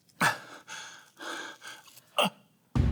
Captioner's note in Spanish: Él jadea